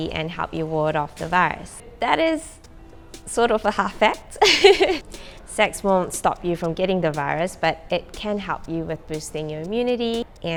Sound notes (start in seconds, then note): 4.4 laughs